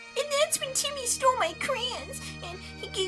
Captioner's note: sniffling over bagpipes